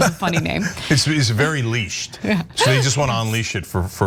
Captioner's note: laugh